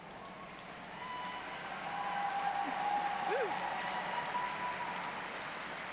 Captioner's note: applause